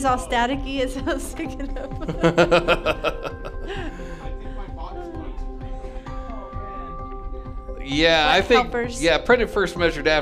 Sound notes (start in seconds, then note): 1.7 laughing